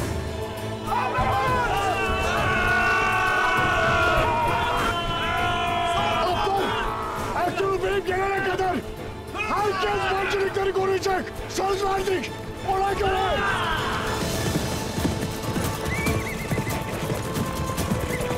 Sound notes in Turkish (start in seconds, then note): 14.8 At nalı sesleri; 15.7 At kişneme sesi